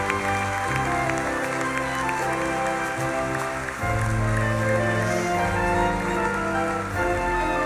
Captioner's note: audience continues clapping